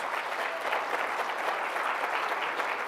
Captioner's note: applause